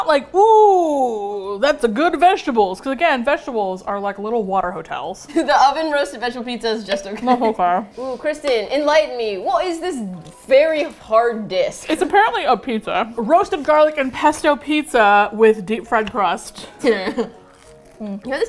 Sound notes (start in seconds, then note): 7.2 laughs; 8.3 mouth full, muffled; 16.8 chuckles